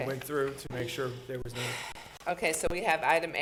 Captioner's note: chairwoman sighs